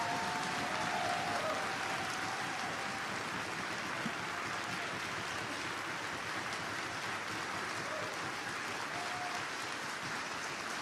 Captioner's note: applause